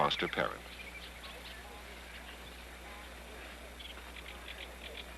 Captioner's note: geese Chirping, Water Rushing